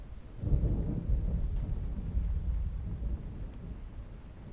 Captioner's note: thunder rolling